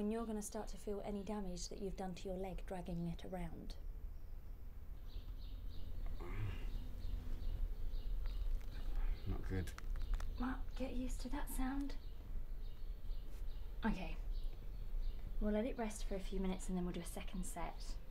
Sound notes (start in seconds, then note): 9.5 cracking